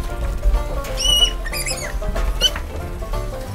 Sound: lively banjo music; squeaks

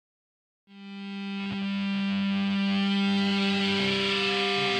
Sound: feedback

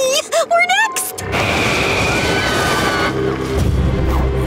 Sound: screaming

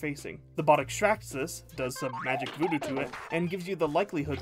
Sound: silly math noises

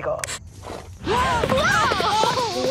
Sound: Lenny and Ms. Tag exclaim

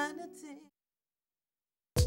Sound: silence

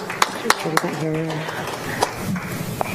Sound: applause

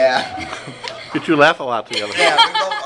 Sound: laughing

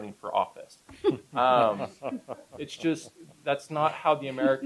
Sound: laughter

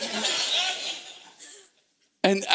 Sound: congregation laughing

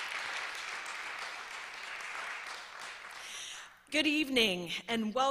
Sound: applause

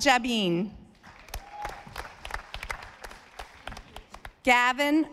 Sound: audience applauding

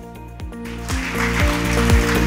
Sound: clapping

